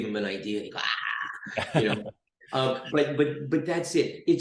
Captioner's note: chuckles